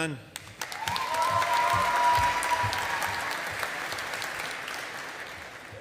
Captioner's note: audience applauding